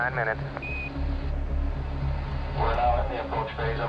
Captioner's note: beeping